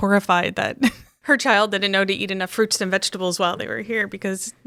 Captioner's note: chuckles